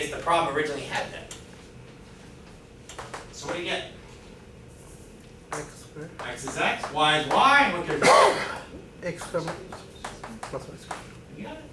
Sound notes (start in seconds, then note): 7.9 student cough